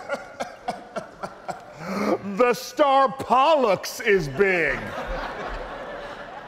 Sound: audience laughing

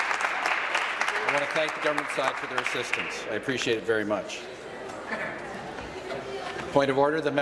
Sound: applause

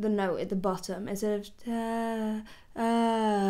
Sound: vocalizes

